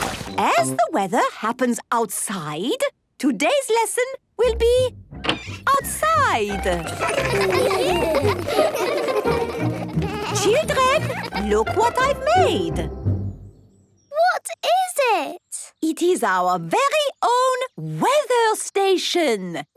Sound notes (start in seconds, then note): 6.4 laughter